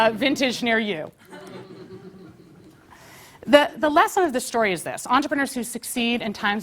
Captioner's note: laugh